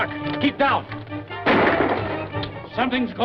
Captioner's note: gunshot